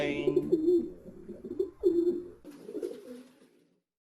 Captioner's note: singing; the sounds of pigeons fade away